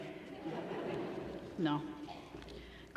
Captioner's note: laughter